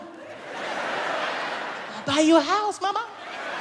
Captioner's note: audience laughs